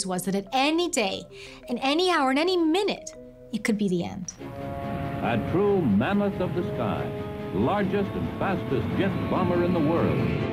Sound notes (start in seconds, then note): 5.2 radio voice